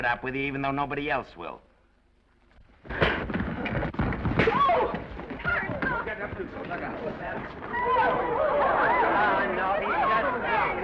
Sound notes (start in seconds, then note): 2.9 elbow thuds; 4.2 fist thuds; 5.4 all chattering